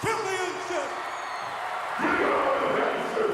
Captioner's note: audience cheering